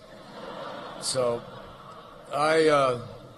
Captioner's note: laughter